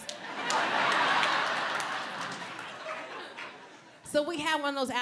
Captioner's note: audience laughs